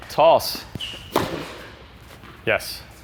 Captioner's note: ball thumps